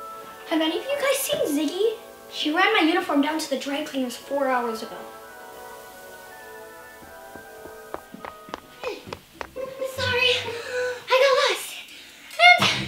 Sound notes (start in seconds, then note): 7.7 footsteps